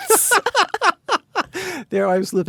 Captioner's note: Anna and David laugh